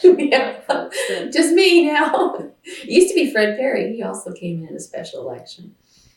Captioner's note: laughs